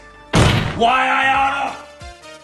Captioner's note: slam; quietly